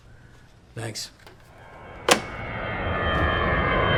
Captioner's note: phone receiver thuds; plane engine whirs